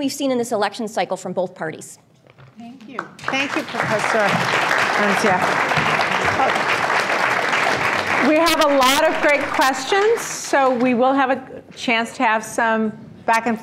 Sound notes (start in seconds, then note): 7.1 applause